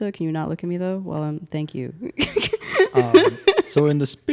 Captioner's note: laughs